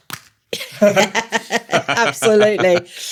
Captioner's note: laughter